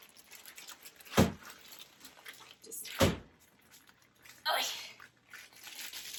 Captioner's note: thump